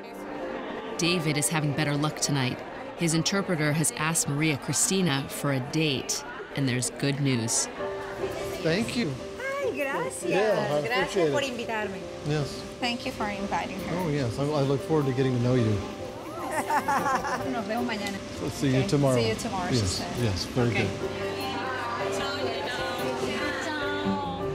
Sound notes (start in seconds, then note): 9.4 speaking spanish; 16.3 laughs